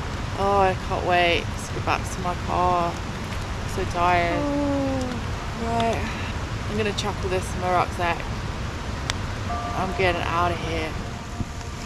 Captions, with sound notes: ahh I can't wait to get back to my car I'm so tired [yawns] right I'm gonna chuck all this in my rucksack I'm getting outta here